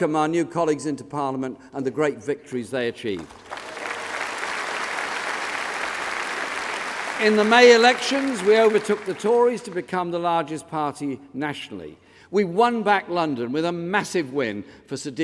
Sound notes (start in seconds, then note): 9.6 applause